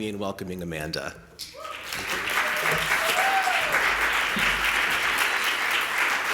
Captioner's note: cheering and applause